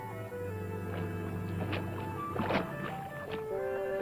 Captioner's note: sloshing